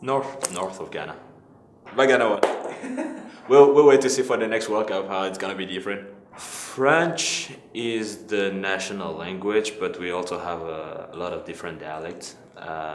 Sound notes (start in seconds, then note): 2.8 interviewer laughs